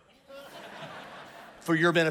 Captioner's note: congregation laughs